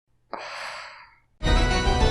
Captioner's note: sigh